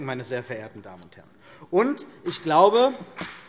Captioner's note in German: Vereinzelter Beifall CDU und BÜNDNIS 90/DIE GRÜNEN